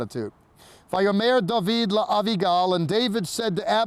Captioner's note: speaking in Hebrew